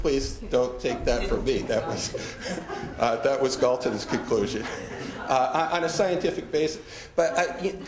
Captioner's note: laughter